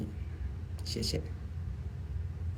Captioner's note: in chinese